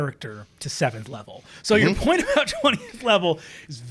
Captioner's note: laughing